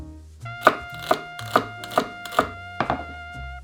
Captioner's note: knife chopping